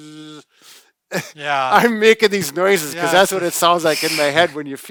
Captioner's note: laughing